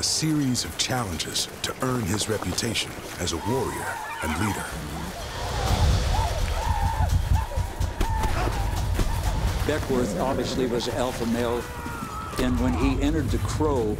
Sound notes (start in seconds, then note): 6.4 war cries